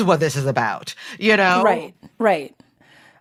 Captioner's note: none